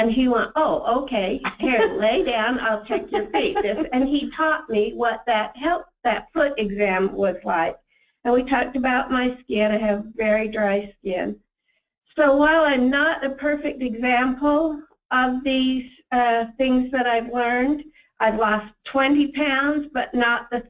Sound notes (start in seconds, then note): 2.7 laughs